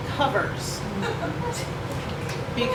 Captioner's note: laughter & Guffaws from the audience